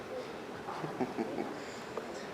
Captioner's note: host chuckles